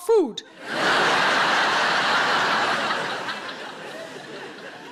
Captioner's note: audience laughing